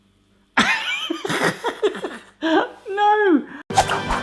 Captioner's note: laughing; fanfare